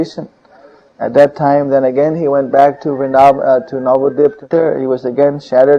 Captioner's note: audio corrupted